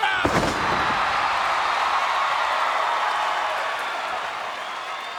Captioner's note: audience cheers